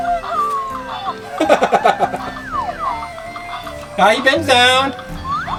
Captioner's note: laughs